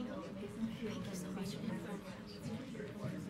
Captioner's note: none